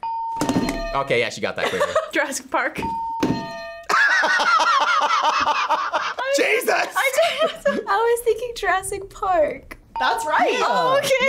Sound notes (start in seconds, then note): 0.0 bell rings; 2.9 bell rings; 3.9 laughs